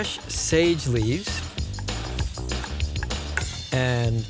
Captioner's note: chopping